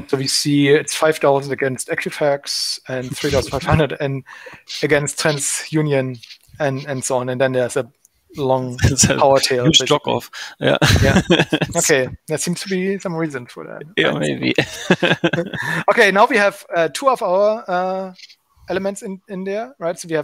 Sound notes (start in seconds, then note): 10.7 giggling; 14.3 giggling